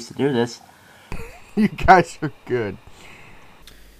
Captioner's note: laughing